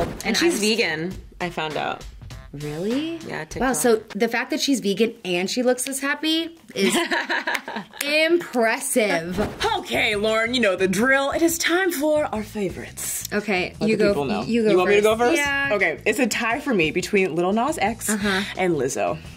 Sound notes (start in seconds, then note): 6.7 laughs